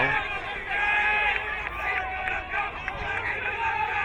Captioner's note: crowd cheering